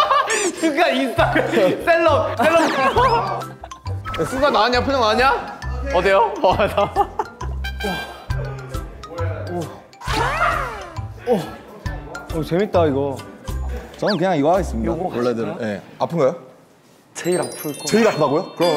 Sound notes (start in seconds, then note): 2.4 bursts out keke